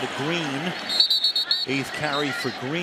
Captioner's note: whistle